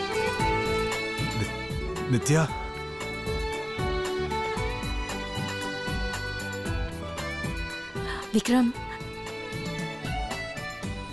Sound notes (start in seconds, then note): none